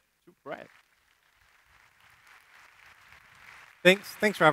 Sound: applause

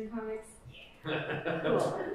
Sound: laughter

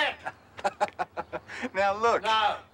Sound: laughs

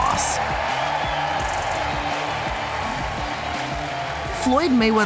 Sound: crowd cheering

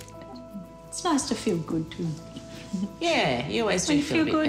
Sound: chuckles

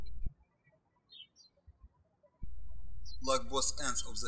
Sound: birds chirping

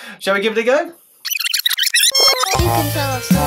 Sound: rewind noise

